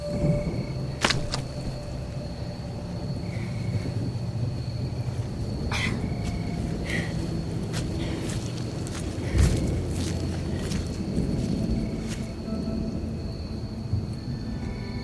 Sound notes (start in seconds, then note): 0.2 dramatic music; 4.6 insects chirping; 12.1 dramatic music